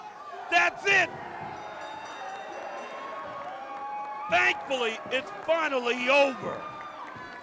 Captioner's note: crowd chatter